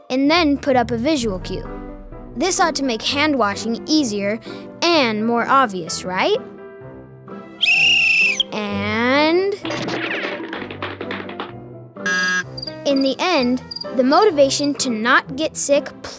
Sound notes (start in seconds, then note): 7.6 whistle blows; 12.0 buzzer buzzes